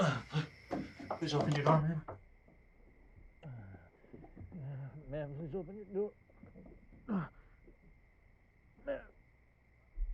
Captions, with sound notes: Please open your door, ma'am. Ma'am, please open your door. [grunting] Ma'am.